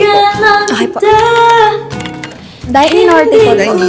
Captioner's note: clicking